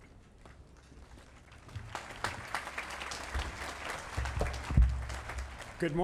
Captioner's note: applause